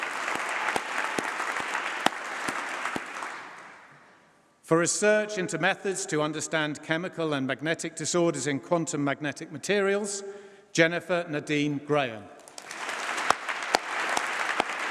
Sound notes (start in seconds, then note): 12.4 applause